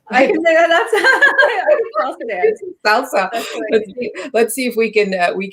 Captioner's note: both laugh